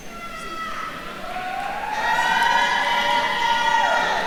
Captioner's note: attendees cheering